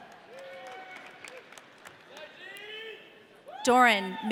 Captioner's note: audience cheering